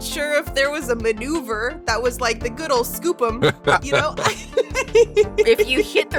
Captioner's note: chuckles